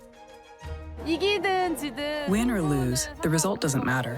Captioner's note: speaking Korean